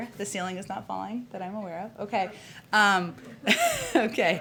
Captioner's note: laughter